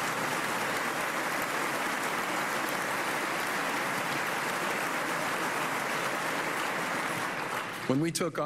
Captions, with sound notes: STATE AND LOCAL GOVERNMENT. THIS IS HOW GOVERNMENT SHOULD WORK. [ APPLAUSE ]